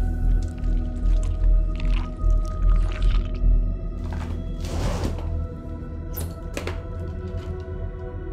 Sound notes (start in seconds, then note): 0.3 tentacle squelching; 4.5 case rasps